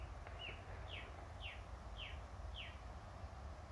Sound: sound: Bird Song

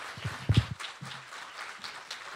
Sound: applause

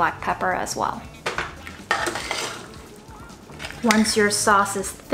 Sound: spoon scraping

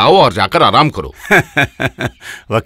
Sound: laughs

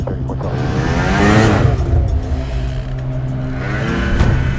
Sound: engine roaring

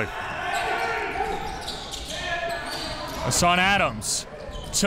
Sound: crowd cheering

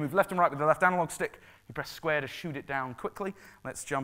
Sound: none

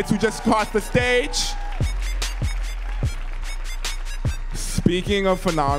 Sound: audience cheering

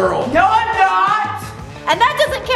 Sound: yelling

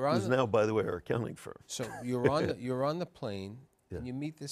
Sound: laughs

